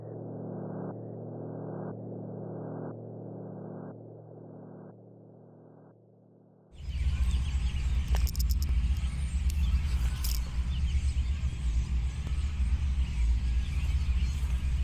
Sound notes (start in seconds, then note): 6.8 birds chirping